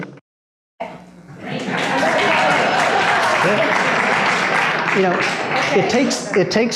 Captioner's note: applause